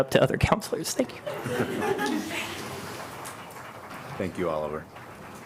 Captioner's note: laughter